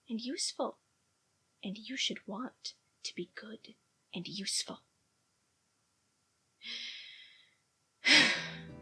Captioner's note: deep breath